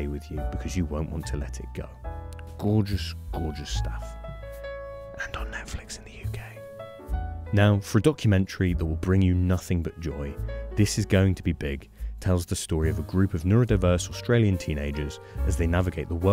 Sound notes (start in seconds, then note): 4.7 whispers